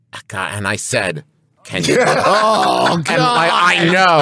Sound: laugh

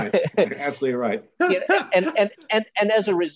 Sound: laughter

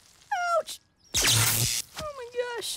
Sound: sizzle; zap!

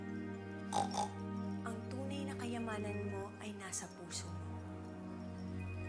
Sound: snorts

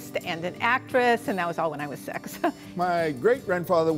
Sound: laughter

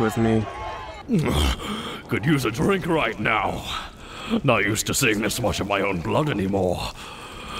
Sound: winces

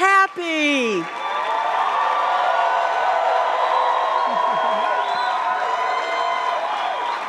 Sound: audience clapping; audience cheering

